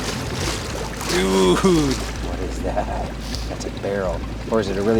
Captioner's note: laughing